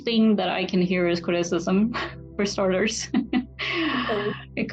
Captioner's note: laughs